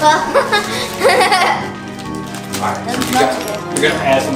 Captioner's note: laughs